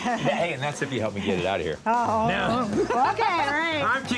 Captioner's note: laughs